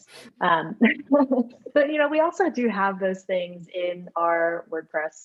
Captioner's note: laughs